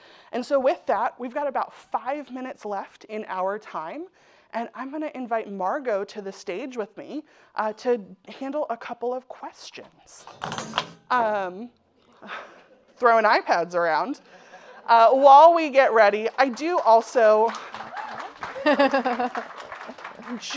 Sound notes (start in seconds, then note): 10.3 iPad clattering; 14.1 audience laughing; 17.9 audience applauding; 18.4 laughing